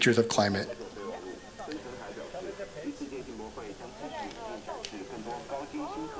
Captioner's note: non-english speech